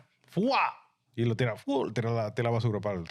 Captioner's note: speaking In Foreign Language